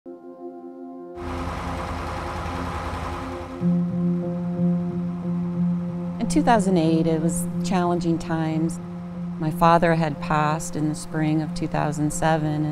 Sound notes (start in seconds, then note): 1.2 truck engine roaring; 3.9 gentle piano music